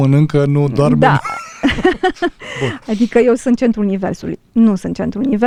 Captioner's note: laughter